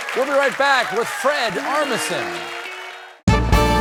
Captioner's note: cheers and applause